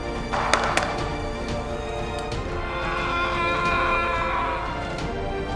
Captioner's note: scream